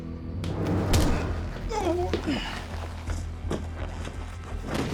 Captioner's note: tense music; thud, groan; thuds onto ground